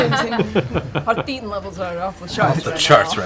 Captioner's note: laughter